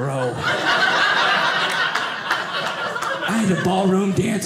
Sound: audience laughing

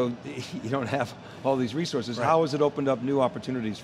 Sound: laughing

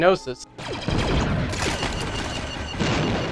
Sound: blasters firing; explosions

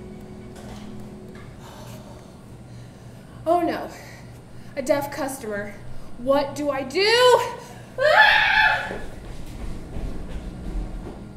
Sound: screams

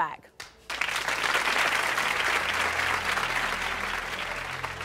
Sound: audience applauding

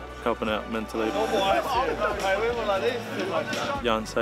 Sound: teammate chatter

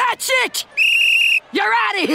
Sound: blows whistle

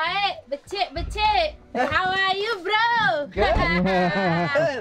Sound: speaking in a foreign language

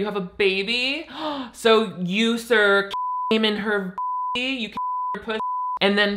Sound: gasps; beeps

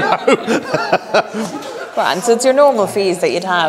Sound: laughs

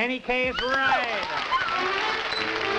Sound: applause; horn music

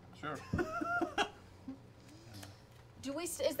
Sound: laughing

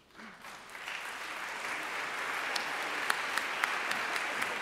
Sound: audience applauding

